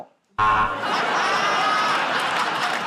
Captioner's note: buzzer; laughter